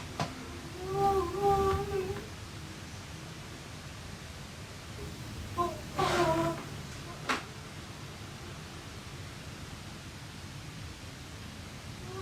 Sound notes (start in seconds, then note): 0.6 Gina mumbling